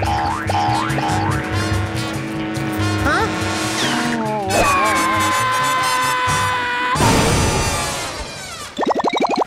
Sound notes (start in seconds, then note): 4.6 screaming